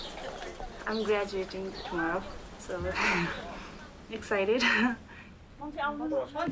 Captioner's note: laughs